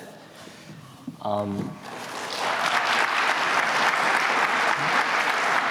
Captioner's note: applause